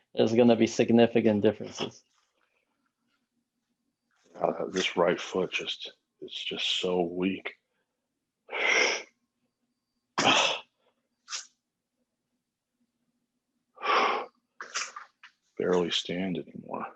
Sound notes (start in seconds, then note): 9.9 breaths heavily